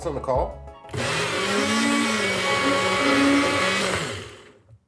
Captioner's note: buzzing sound